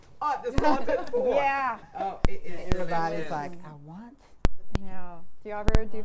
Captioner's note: laughter drowns out conversation